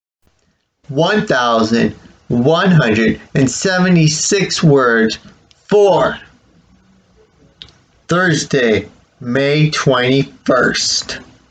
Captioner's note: click